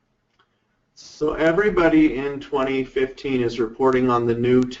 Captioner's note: voiceover